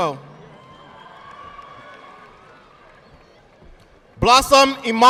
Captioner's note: audience clapping